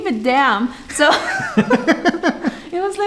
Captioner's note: laughing